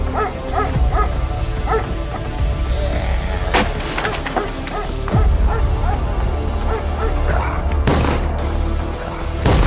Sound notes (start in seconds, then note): 0.0 dramatic music; 4.0 Willamina barking; 7.8 gun firing; 9.4 dramatic music